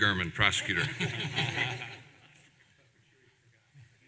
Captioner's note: laughter